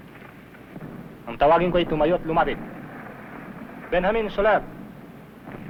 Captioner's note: non-english speech